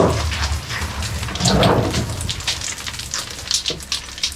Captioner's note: rocks falling